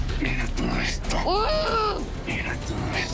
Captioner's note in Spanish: Gritos ahogados